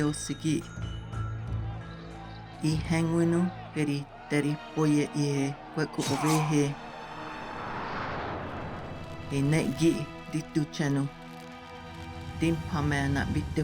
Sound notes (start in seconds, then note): 3.9 people shouting and fighting